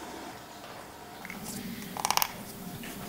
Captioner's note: creaking